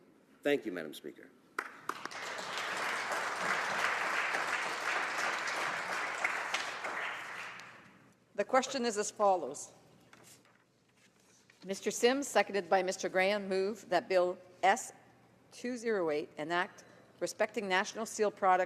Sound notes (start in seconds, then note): 6.6 applause